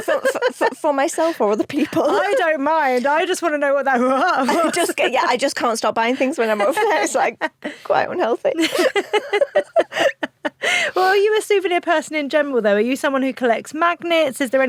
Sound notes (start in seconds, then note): 0.0 chuckles; 4.1 chuckles; 8.5 both laugh